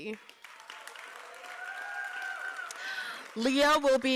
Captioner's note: applause